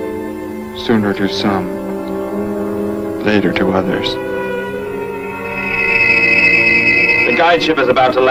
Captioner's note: aircraft whirs